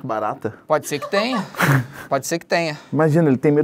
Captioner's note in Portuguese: risadas